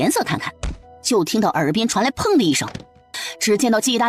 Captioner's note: thud